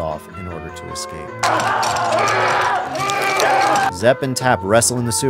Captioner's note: adam and dr. gordon screaming